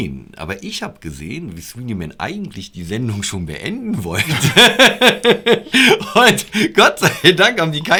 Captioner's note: laughter